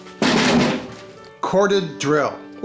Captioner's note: metal banging